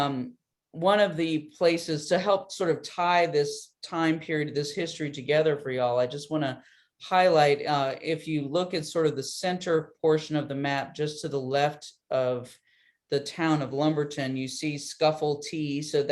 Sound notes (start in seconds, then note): none